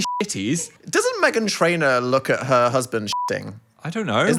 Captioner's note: beep; beep